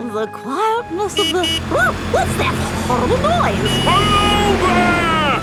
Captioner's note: honking